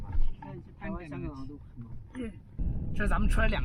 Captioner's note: speaking Chinese